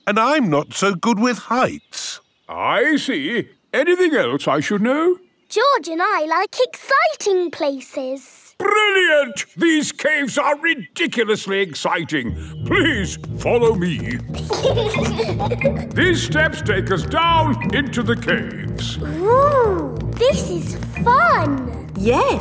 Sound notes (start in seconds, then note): 14.3 giggling